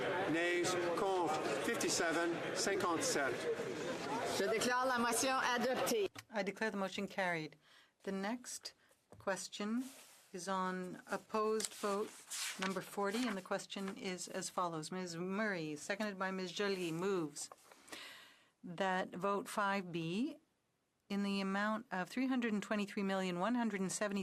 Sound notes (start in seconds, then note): 7.9 speaking French